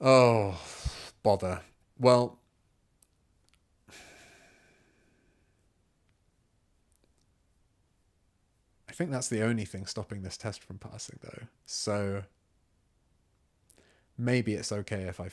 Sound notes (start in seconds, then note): 2.4 silence